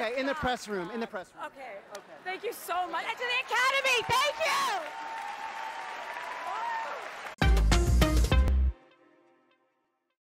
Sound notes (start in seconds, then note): 4.7 cheering